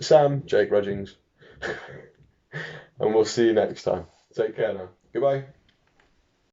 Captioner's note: giggles